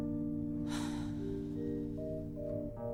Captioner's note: sighs